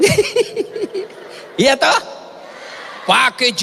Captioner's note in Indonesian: tertawa